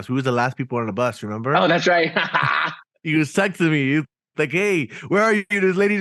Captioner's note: laughing